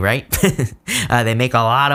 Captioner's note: chuckles